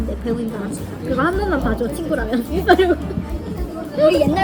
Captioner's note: begging